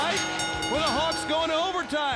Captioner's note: bell ringing